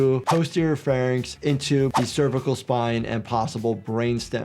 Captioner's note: audio whooshes